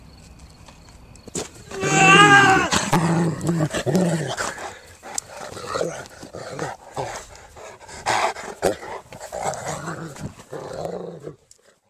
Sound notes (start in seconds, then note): 1.6 yelling and growling